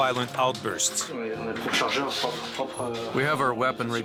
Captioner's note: French spoken audio